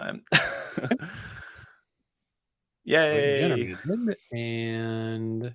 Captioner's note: laughs